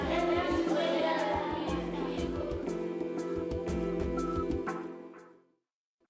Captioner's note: children speaking